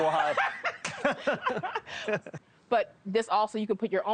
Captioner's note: both laugh